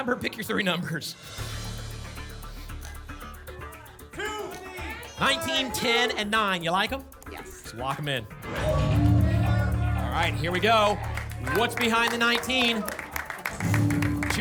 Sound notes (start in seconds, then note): 4.2 audience shouting numbers; 8.5 whoosh; 8.7 ping